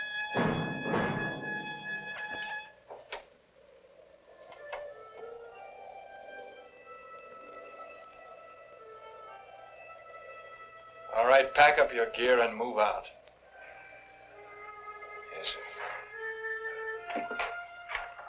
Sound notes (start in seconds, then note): 5.1 gentle music; 5.1 wind howling